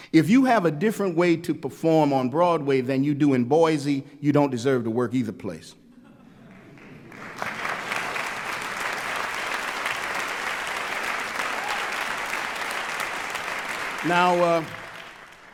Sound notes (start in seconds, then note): 12.3 applause